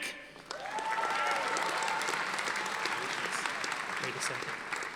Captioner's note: audience applauding